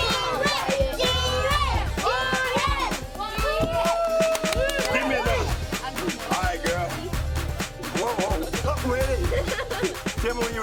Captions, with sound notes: (kids continue cheering) Alright, girl. Whoa, whoa, whoa! I'm not ready. (kid laughs)